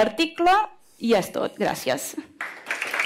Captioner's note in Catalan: Aplaudiment